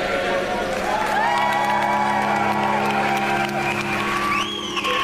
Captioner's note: audience applauding